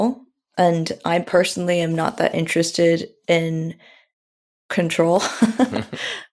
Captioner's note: laughs